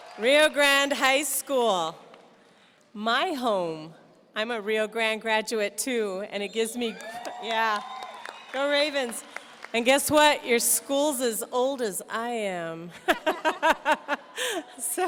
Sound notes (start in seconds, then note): 0.0 audience cheers; 6.9 audience cheers; 13.9 laughs